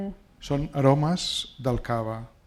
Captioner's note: speaking spanish